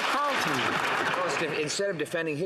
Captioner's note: some Applause